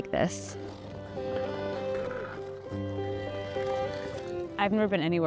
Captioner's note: skate blades carving ice